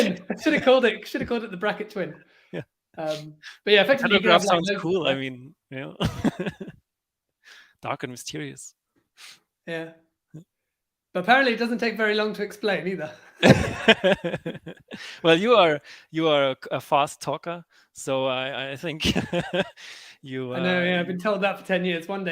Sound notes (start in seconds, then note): 6.0 laughs; 13.4 everyone laughs; 19.0 laughs